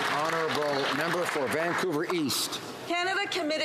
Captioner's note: some Applause